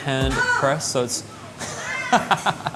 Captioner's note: loud shouts in backgound